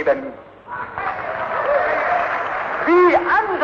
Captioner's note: applause